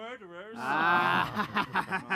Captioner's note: laughs